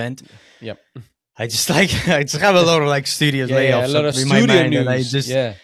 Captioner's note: laughs